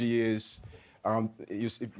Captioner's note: none